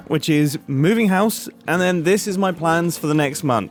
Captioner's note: none